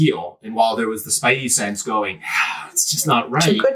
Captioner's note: sigh